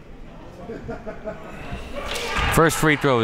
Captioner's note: laughing from the stands